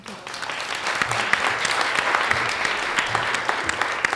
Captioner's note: audience applauds